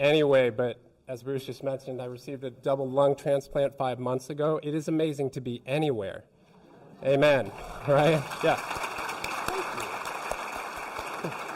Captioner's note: applause